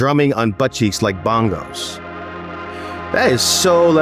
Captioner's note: laughs